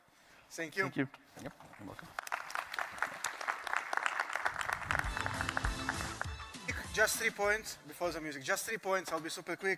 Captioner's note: applause